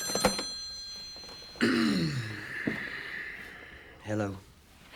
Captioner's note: clears throat